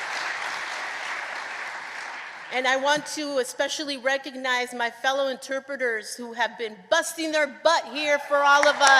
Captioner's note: applause